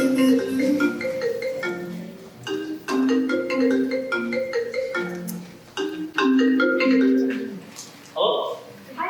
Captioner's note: phone Rings